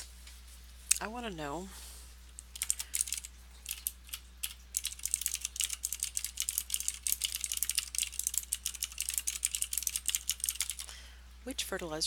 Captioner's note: typing